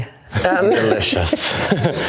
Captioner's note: all laughing